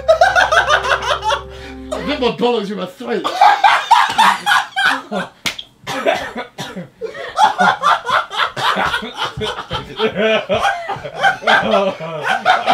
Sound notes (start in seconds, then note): 0.2 JJ laughing; 7.0 JJ literally rolling on the floor in a fit of laughter; 12.5 Ethan groaning